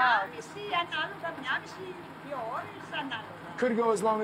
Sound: speaking Greek

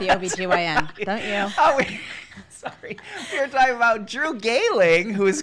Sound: laughing

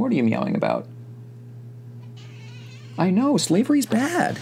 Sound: meow

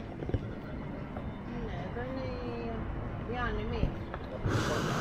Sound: people chattering

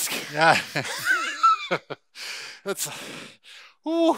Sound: laughter

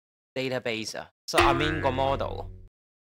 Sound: Cantonese

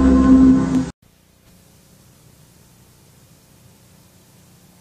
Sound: VHS static on TV

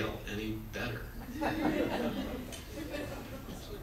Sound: audience laughs

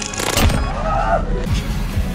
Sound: primal scream

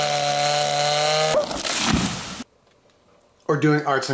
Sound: chainsaw buzzing

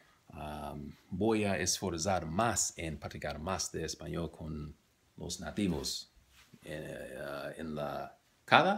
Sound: spanish

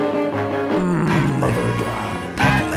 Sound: groans

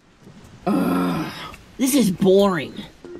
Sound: groans

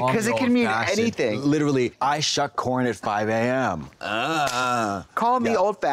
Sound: moans

